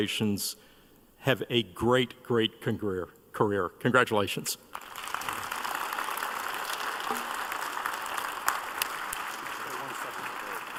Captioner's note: applause